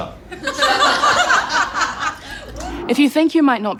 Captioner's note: crowd laughs